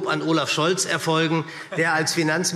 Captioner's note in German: Lachen Minister Michael Boddenberg